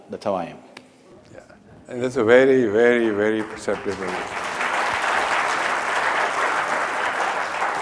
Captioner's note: applause